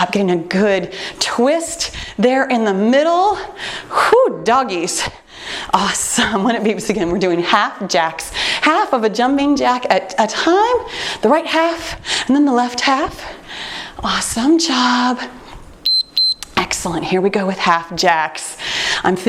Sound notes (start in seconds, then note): 15.8 timer beeps